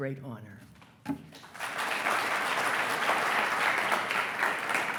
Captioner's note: attendees applauding